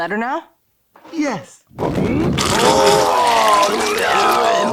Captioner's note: pukes